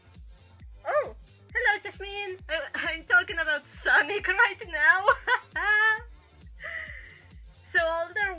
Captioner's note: laughs